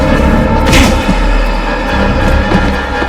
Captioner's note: groans